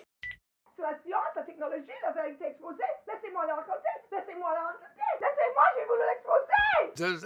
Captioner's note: Cassie screaming in French